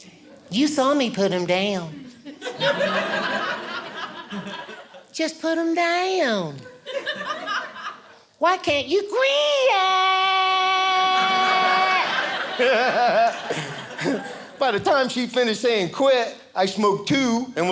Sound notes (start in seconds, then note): 2.2 audience laughing; 11.2 audience laughing